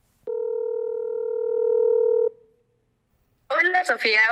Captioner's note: phone rings